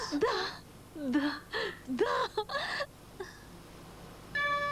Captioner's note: laughs